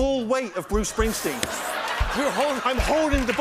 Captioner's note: laughter and applause